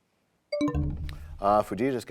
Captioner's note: bell chimes, time expires